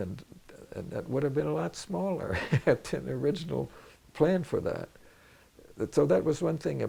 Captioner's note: laughs